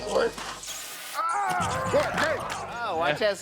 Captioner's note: screaming